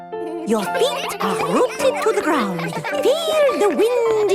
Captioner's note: all giggling